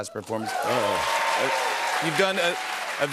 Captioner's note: cheers and applause